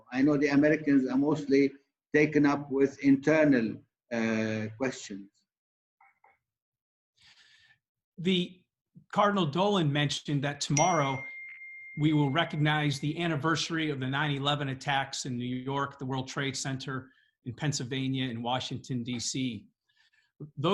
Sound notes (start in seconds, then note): 10.7 bell chiming